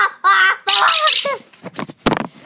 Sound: Tito chirps some more

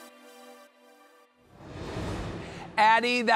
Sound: air whooshing

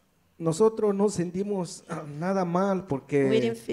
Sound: speaks in foreign language

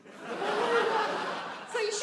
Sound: audience laughs

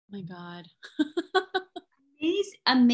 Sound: laughs

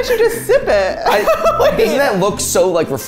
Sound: laughing

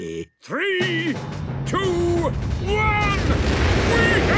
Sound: rockets igniting

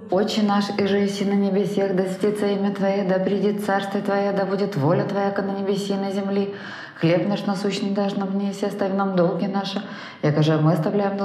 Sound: "our father" prayer sounds

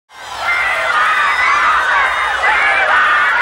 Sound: yelling

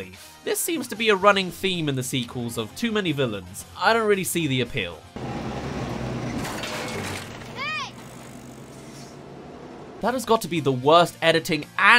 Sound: crushing kid’s bike

